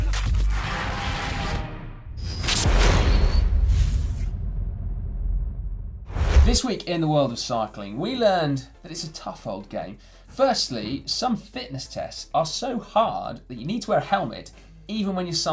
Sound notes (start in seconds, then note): 2.2 logo whooshes